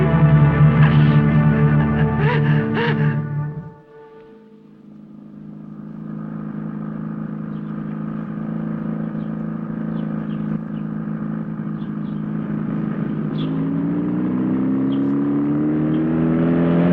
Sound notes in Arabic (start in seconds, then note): 5.6 صوت المحرك; 10.0 زقزقة العصافير; 14.1 هدير المحرك